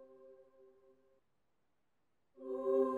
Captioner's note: none